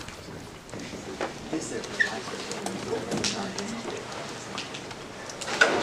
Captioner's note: murmured discussion